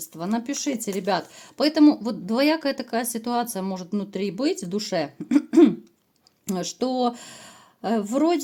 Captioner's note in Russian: откашливается